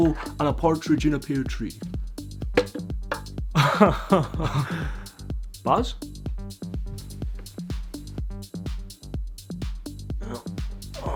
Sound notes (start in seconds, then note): 4.0 laughing